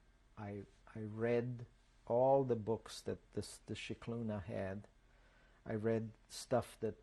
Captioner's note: non-english